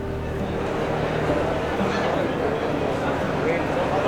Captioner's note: indistinct chattering